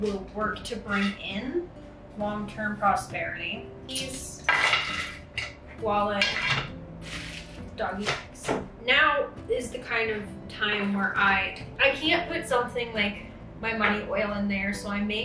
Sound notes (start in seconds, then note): 4.0 metal clinks; 4.8 keys clinks